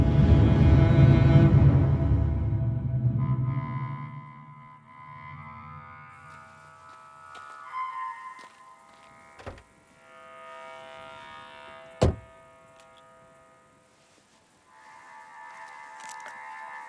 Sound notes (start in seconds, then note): 0.0 dramatic music; 6.2 grass crunching; 6.4 insects chirping; 12.0 door slamming